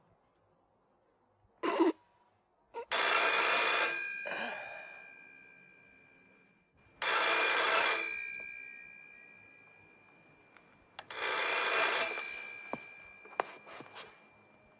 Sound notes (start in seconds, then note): 2.9 telephone rings